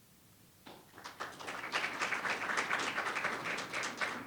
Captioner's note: audience applauds